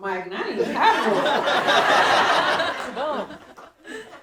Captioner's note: audience laughing